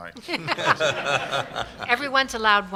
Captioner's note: laughter